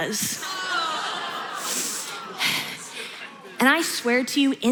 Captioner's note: audience groans